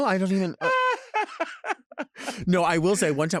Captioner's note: laughing